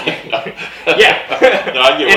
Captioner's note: both laughing